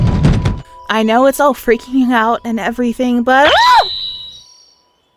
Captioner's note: screams